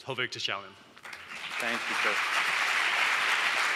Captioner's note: audience applause